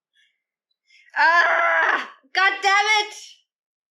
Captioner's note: screams